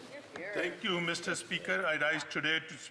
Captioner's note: speaking French